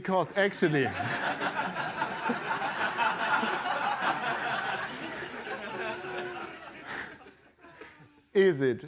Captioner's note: laughter